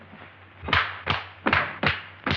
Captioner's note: slapping